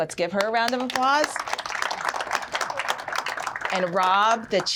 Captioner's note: applause